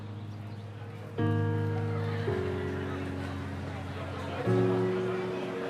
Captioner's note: bystanders chattering